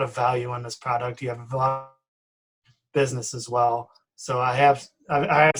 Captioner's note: distorted speaking